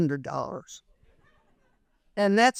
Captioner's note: people laughing